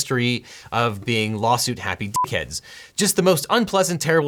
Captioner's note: beep